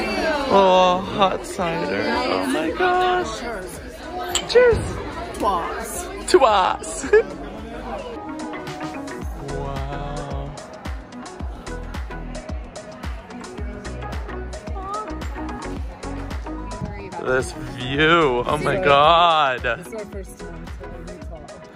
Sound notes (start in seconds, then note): 4.2 glasses clinking